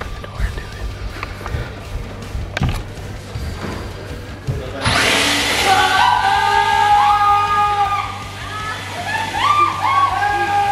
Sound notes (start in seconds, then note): 4.7 leaf blower whirs; 5.0 yelling